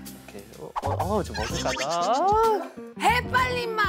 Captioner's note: fluttering